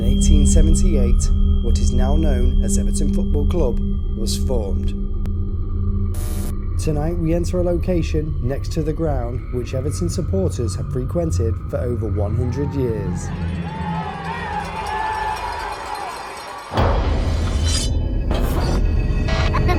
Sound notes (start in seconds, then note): 14.0 shouting; 14.0 suspenseful music; 17.1 eerie music